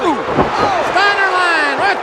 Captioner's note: audience cheers